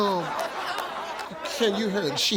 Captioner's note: audience laughs